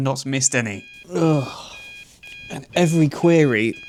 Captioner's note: alarm sounds, groans